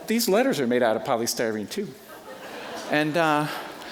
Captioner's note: audience laughing